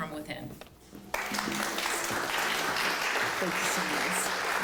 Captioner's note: applause